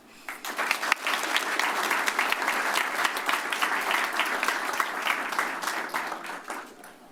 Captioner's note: applause